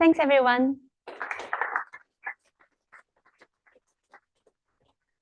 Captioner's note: applause